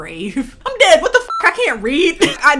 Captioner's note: beep